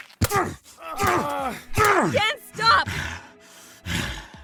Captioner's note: pained grunts; grunts